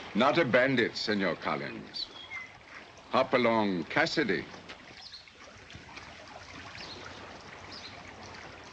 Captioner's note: none